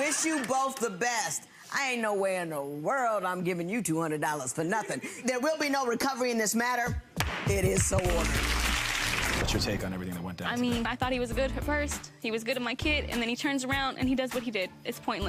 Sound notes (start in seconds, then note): 0.0 audience laughing; 7.8 audience applauding; 9.4 gavel slamming